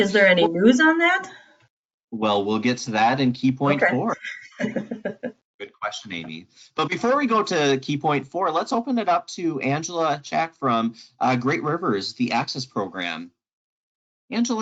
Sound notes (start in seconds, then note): 3.5 laughs